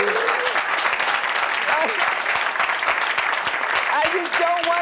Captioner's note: audience claps